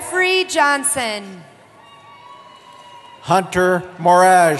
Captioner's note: cheering